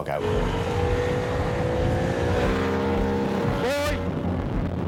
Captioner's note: engine revving